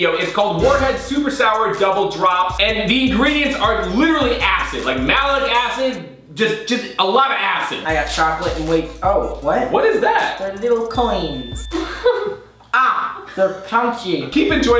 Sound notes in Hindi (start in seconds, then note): 10.3 घंटी dings; 11.7 हंसते हुए